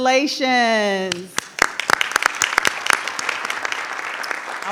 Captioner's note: group applauds